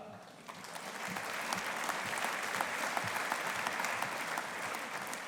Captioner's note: audience applauding